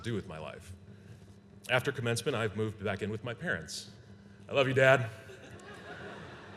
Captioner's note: laughter